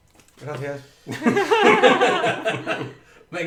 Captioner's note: laughs